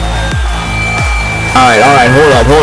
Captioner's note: microphone Screech